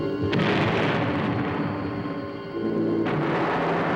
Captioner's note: bombs exploding